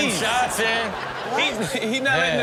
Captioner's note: audience laughs